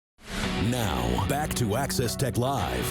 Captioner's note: screen whooshing